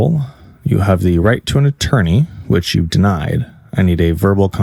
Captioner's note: none